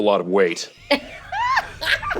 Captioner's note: laughter